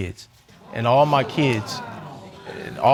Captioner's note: audience exclaiming